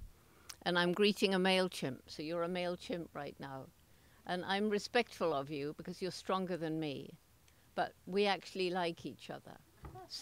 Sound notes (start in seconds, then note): none